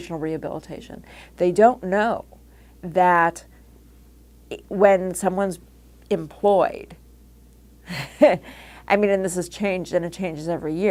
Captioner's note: laugh